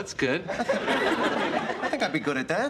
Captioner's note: laughter